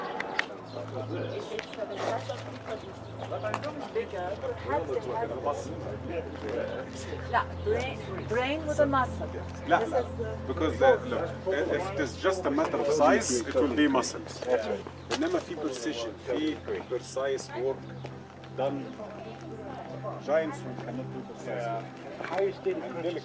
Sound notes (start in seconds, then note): 0.1 gentle music; 0.1 tourists chattering; 14.9 gentle music; 14.9 tourists chattering